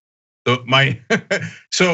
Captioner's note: laugh